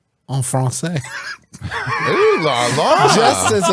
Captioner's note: laughs